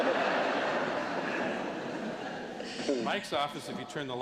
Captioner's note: laughter